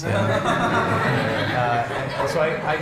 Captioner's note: laughter